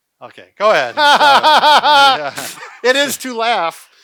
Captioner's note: laughing